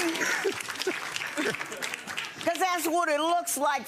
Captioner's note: audience laughing and applauding